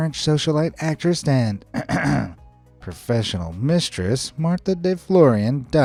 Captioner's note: clears throat